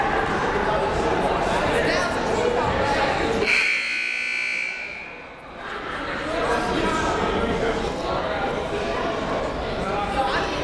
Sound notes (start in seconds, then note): 3.4 buzzer